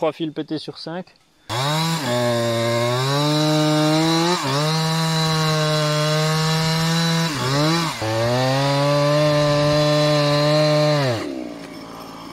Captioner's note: chainsaw noise